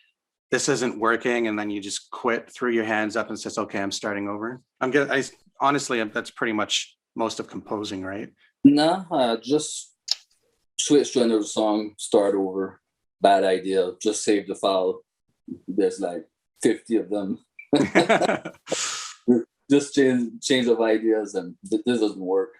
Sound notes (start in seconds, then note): 17.7 laughs